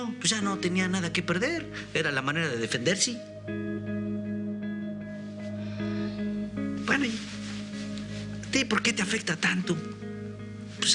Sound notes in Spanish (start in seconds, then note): 3.8 suspiros